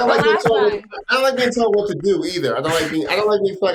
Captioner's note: all laughing